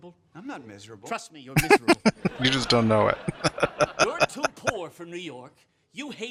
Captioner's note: laughing